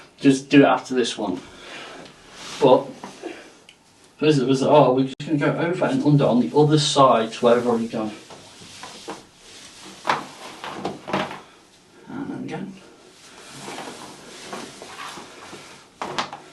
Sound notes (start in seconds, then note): 1.4 person breathing; 7.2 rope rustling; 13.0 rope rustling